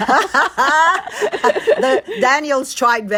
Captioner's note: laughter